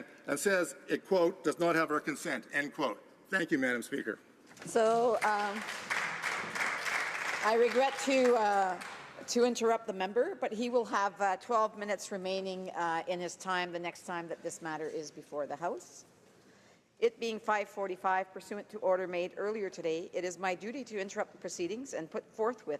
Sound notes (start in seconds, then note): 10.2 some Applause